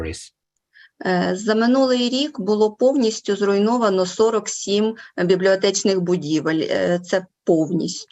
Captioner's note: foreign Language Spoken